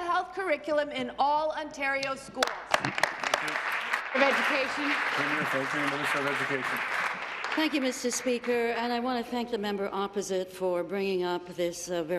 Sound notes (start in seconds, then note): 5.7 applause